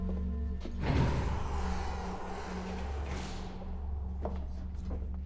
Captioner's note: elevator door whirring